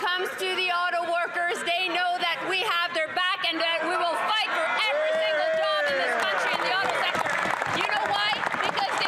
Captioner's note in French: voix de l'interprète